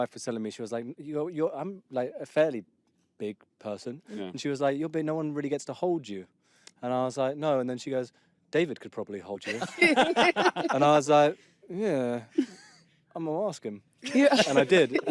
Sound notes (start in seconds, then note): 9.4 laughter